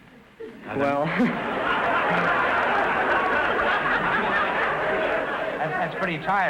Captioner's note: audience laughter